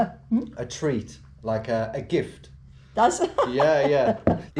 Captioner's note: woman laughs